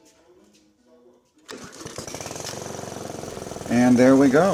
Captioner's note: engine starting sound